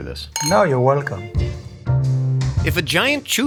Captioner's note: glasses clinking